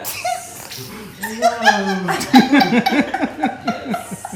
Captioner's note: laughing